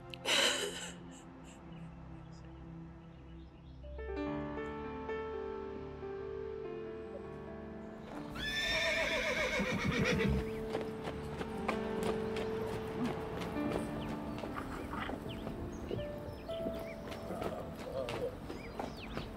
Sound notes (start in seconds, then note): 4.5 somber piano music; 8.3 horse neighing